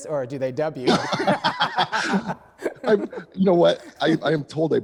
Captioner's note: both laughing